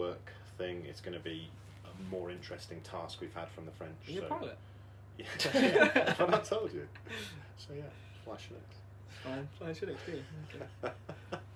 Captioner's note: laughter